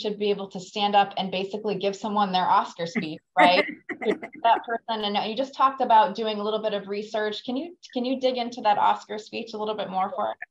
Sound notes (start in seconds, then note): 3.4 laughs